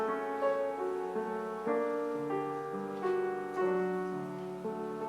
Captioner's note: none